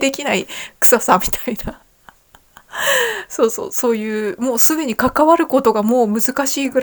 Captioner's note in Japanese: 笑い